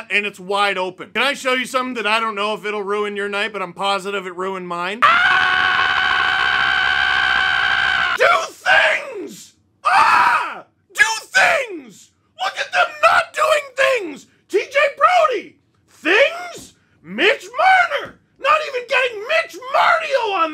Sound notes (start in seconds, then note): 5.0 visceal screaming for minimum five seconds